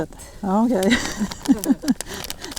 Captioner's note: laughs